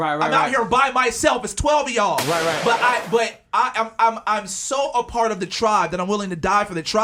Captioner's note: gunshot